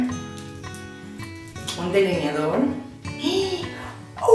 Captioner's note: gasp